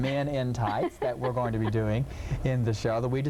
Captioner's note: laughing